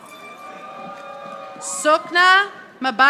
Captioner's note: audience applauding